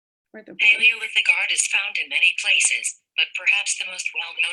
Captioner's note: slower synthesized speech